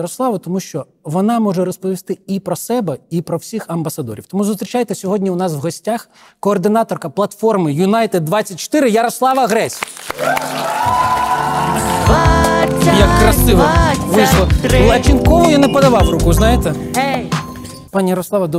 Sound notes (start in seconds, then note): 9.3 applause